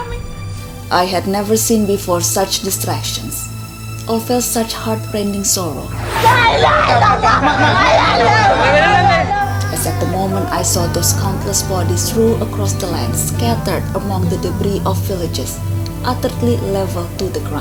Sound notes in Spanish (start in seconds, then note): 5.5 Llanto de mujer